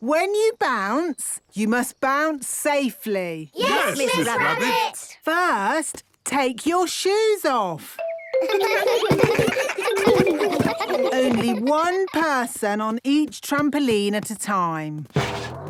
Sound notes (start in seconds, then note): 8.4 giggles